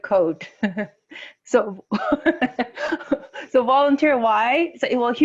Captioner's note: laughing